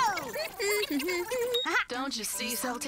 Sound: humming

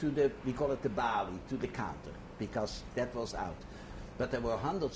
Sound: non-english

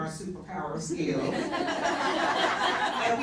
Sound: laughter

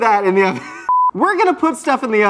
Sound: beep

